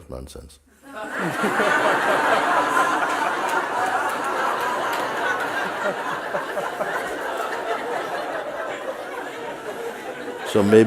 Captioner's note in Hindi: हँसी